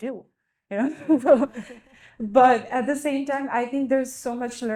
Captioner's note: group laughing